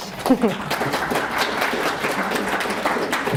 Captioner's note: applause